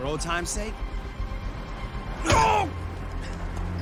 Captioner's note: kicks, groaning